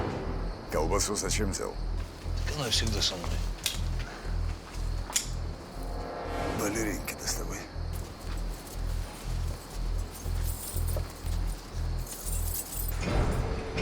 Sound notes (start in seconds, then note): 5.0 gun clicks